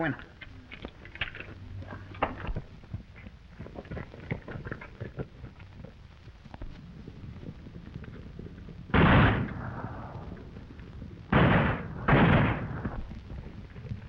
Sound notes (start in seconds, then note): 0.2 Pablo speaking in foreign language; 9.1 gunshots banging